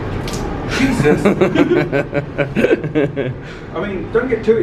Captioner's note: laughing